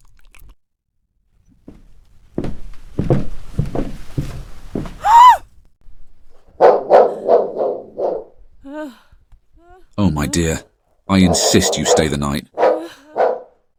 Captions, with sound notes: [heavy footsteps approaching] [Elara screams. Whitefoot barks.] Oh, my dear, I INSIST you stay the night.